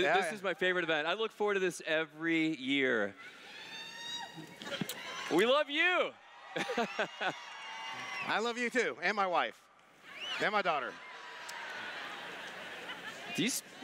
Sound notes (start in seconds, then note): 6.5 laughs; 11.6 laughter